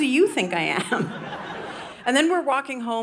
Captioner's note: audience laughing